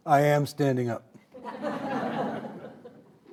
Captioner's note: audience laughing